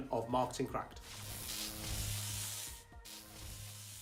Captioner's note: electric Buzz